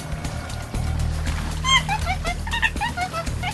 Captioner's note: monkey noises